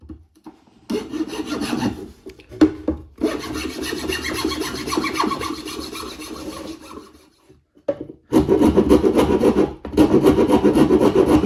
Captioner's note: sawing and rasping noises